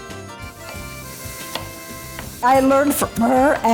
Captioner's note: light music; sizzling